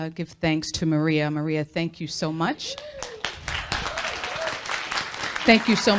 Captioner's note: applause